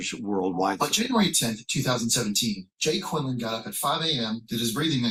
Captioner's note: audio from video playing